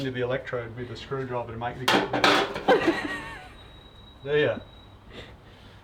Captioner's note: banging